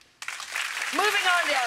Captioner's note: audience applauds